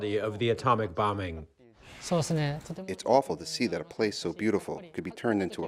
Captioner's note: through translator